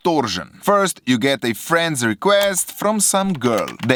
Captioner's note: click